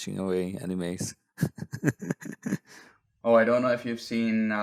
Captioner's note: laughs